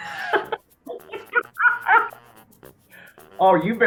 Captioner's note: laughter